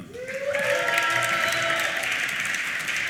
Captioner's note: applause